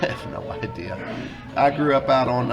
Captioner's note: laughs